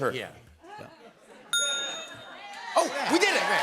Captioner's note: bell dings